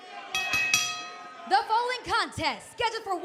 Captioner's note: bell ringing